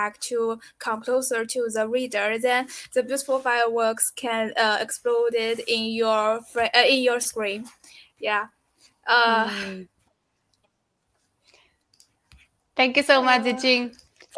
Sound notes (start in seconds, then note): 9.3 giggles